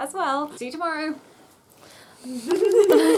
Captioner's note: laughter